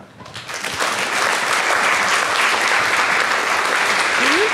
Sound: audience claps

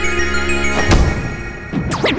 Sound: wha-SLAM!!!

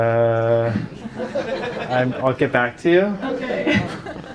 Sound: audience laughs

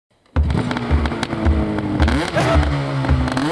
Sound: engine revs

